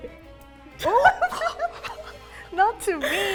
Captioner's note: laughing